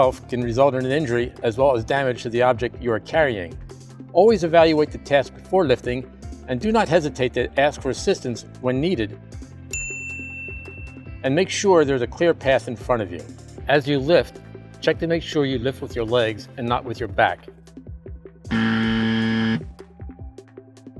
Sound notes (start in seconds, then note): 9.7 bell dings; 18.5 buzzer